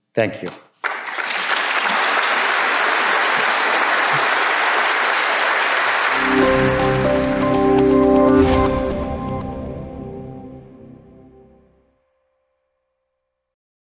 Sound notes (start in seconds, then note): 0.8 audience applauding; 6.1 upbeat music